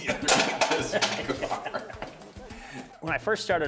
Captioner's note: laughter